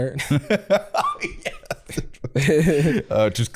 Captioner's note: laughing